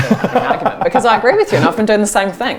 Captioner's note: laughter